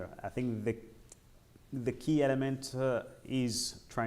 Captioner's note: none